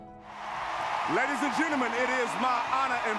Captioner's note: crowd cheering